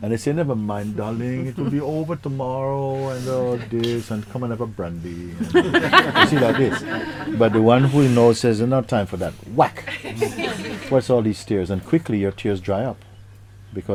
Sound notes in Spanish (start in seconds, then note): 5.4 La interlocutora ríe